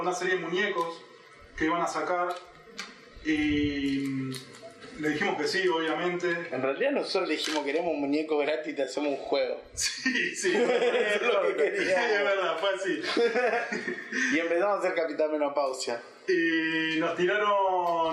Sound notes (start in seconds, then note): 9.8 laughter